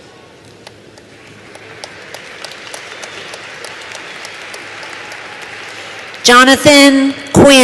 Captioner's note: applause